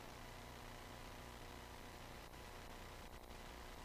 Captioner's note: none